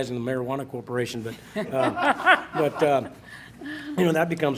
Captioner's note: laughing